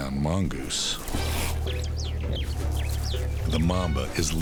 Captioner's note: birds chirping; light dramatic music